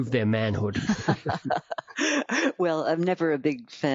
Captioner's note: laughing